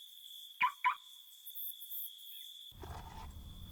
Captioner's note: crickets chirp; car alarm chirps